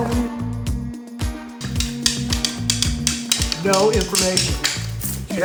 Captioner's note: stick clacking